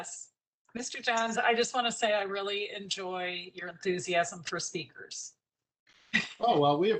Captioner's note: laughter